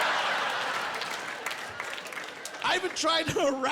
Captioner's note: laughing